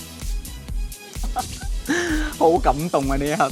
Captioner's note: laugh